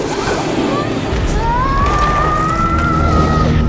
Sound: screaming

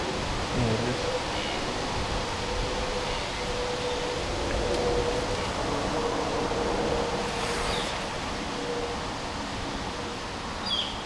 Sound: wind

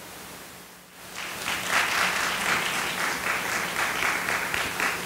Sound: audience applauding

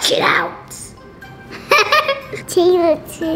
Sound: laughter

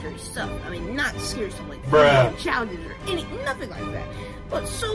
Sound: Bruh sound effect

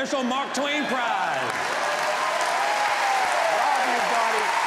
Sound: audience cheers

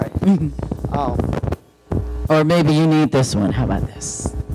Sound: mic feedback and static

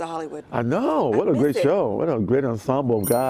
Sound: laughter

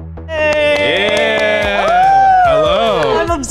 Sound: everyone cheering

